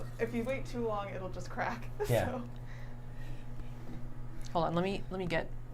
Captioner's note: laughs